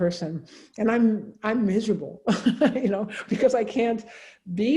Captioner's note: chuckles